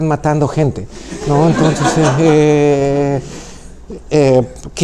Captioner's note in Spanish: risas